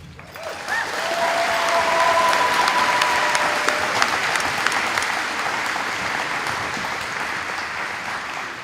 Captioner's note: applause